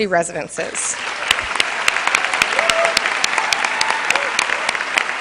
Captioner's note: cheers and applause